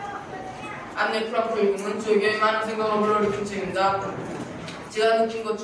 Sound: speaks in foreign language

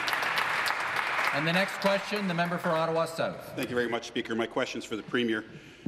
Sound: some Applause

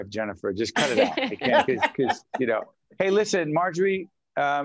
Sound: laughing

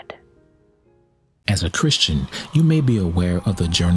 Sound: voiceover

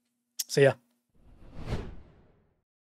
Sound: whooshing

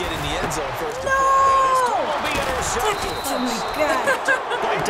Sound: laughs

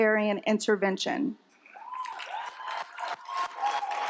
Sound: applause

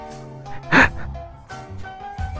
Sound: sharp inhale

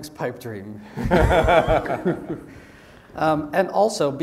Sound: laugh

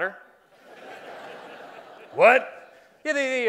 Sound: laughing

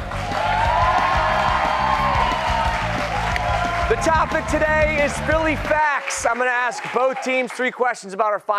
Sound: cheers and applause

